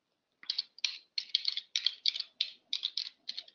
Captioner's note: typing